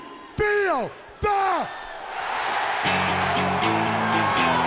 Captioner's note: crowd cheering